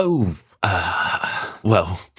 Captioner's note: sigh